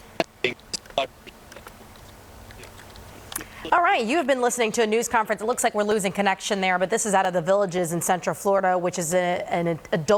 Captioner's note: broken audio